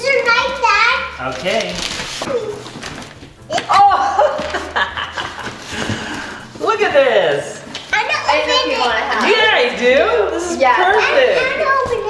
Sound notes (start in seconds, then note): 3.6 laughing